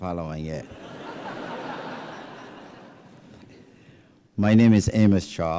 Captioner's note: laughter